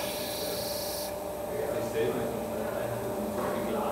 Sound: machine whirring, distant conversations

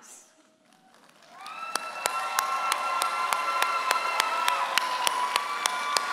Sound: audience applauds and cheers

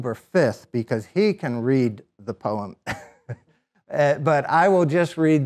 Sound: laughs

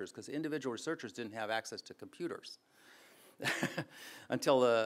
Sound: chuckles

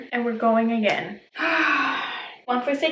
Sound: sighs

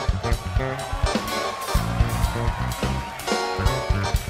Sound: applause

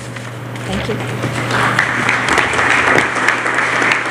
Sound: applause

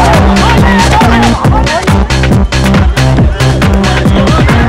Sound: boys cheering

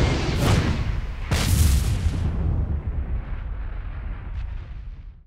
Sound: whooshing sounds

